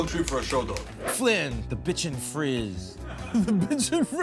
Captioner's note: air whooshes; laughing